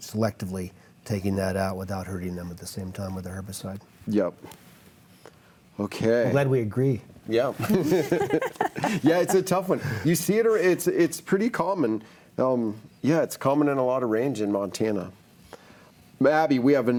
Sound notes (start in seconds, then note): 7.6 laughs